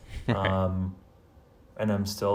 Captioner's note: laughs